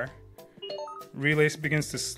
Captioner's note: robot beeps